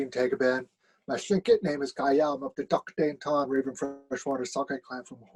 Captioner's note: speaking Tlingit